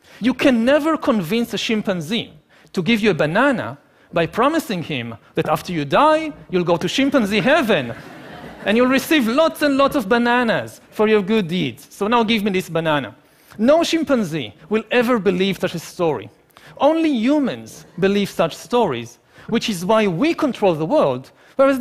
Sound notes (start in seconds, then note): 7.3 laughing